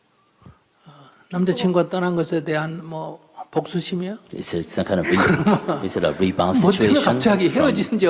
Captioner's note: /Questioner Laughter